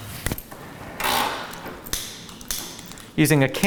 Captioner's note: metal snapping; cord clangs